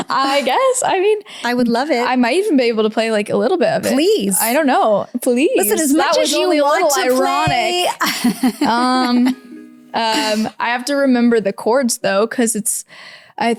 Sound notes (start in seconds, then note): 7.8 laughs